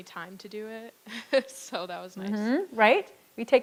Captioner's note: chuckles